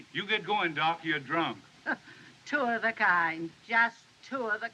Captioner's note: scoffs